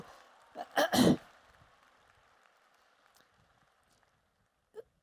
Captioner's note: applause